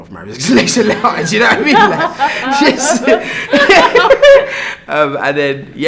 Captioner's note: laugh